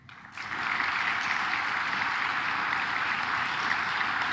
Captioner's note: claps